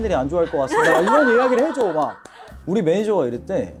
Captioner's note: applause